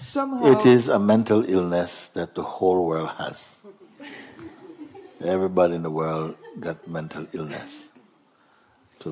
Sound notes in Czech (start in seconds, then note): 3.6 smích